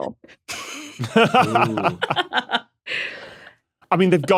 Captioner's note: laugh